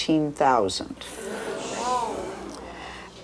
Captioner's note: audience gasps